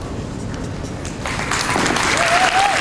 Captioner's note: applause